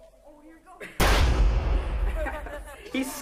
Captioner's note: firecracker booming